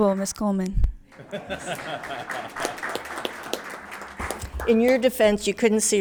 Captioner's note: attendees applauding; laughs